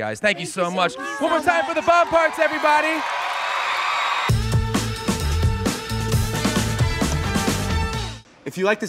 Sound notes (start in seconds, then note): 2.9 audience cheering; 2.9 audience clapping; 4.2 upbeat music